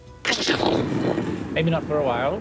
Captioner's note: thunder rumbling